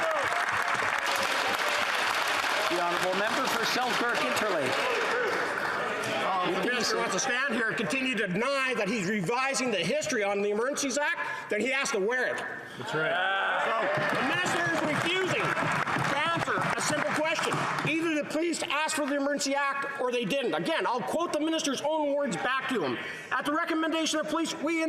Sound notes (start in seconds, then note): 5.4 applause